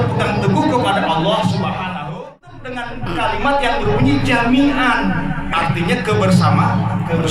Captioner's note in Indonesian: tertawa